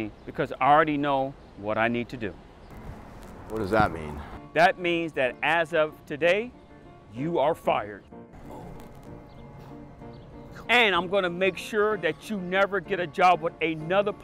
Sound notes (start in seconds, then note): 8.4 Jacobs sighs; 9.5 Jacob whispers regretfully